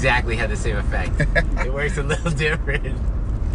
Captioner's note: laughing